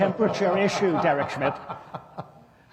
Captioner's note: laughter